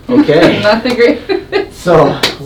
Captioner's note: laughter